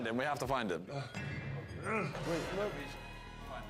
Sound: grunting

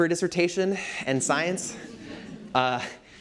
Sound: laughter

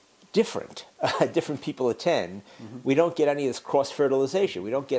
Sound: laugh

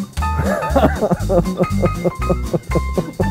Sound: laughs

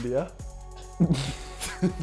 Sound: chuckles

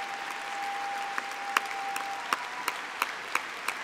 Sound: applause

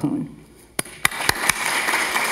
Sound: audience applauding

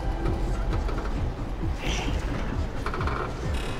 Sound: whispers

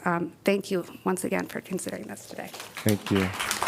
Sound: applause

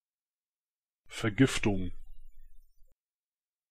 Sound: fast Pronunciation

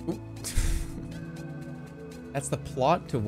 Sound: chuckles

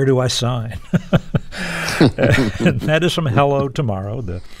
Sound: laughter

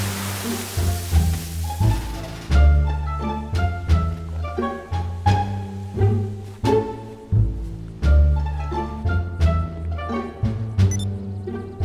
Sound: explosion

